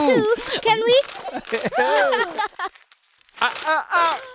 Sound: gasping

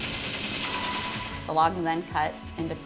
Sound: machinery revving

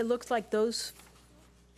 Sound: none

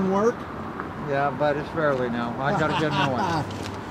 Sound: laughs

